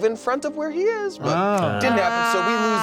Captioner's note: groaning